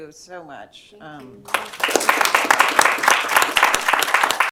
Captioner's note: applause